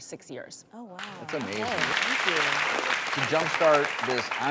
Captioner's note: applause